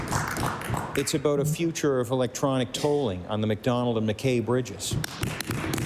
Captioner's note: applause